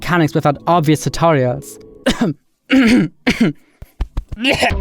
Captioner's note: clears throat